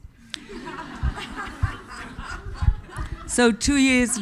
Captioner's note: audience laughing